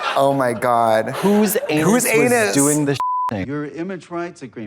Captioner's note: beep